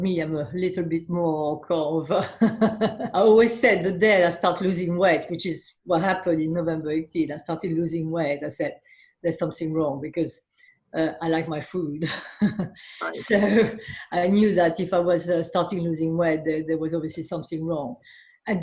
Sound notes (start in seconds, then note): 2.4 laughing; 12.3 laughing